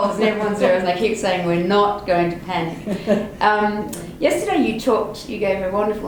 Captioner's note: laughter